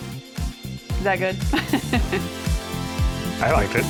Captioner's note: chuckles